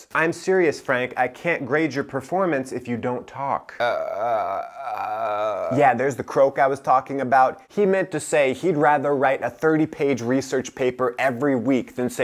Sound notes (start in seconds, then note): 3.7 croaking